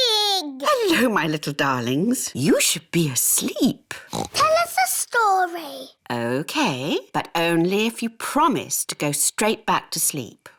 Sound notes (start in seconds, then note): 4.0 oinks